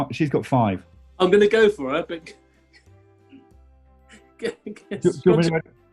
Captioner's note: giggling